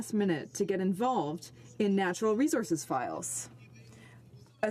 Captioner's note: none